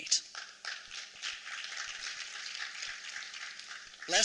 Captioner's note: applause